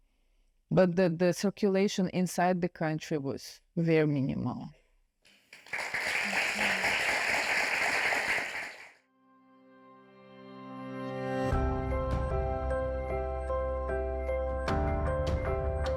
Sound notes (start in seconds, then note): 5.4 audience clapping; 10.3 bright music